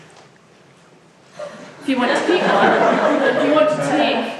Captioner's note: laughs